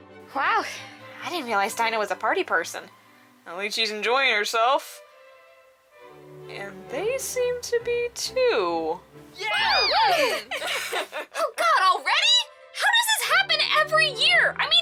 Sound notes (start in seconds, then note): 9.4 group cheers